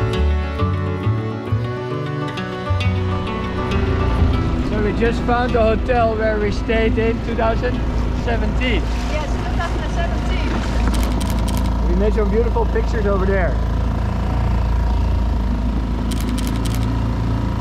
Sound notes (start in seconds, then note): 10.8 camera clicking; 13.7 motor whirring; 16.0 camera clicking